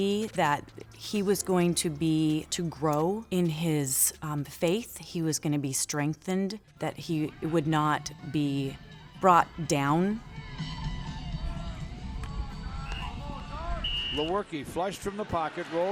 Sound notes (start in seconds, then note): 10.1 muffled rock music; 13.6 whistle blows